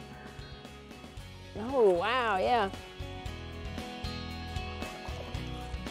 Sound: fish splashing

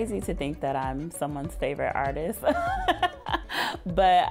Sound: laughs

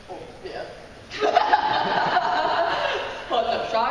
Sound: laughing

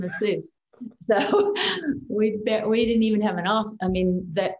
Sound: chuckles

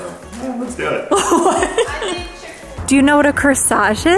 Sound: laughs

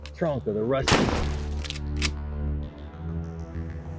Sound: gunshot

